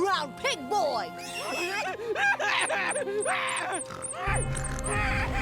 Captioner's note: crying